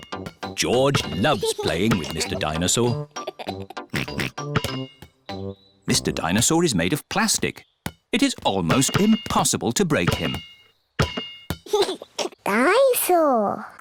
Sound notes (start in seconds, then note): 2.9 laughs and oinks; 11.6 giggles